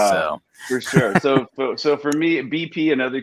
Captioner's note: laughs